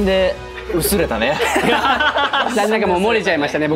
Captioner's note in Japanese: 笑い